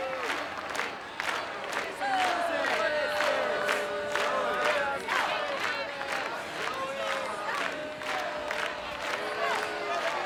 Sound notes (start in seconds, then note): 2.0 chanting Zoe and clapping